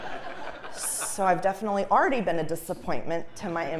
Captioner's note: laugh